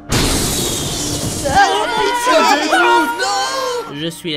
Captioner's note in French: cris de panique